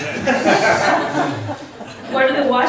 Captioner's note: laughs